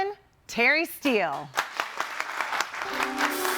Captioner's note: audience applauding; gentle music